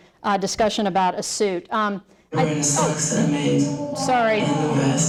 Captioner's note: audio interruption